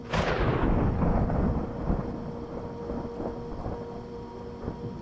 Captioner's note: lightening crashing